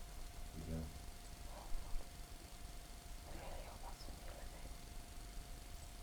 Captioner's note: whispers